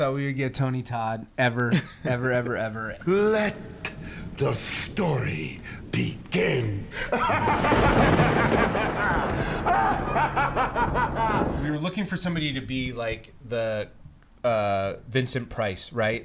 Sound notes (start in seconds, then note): 6.9 laughs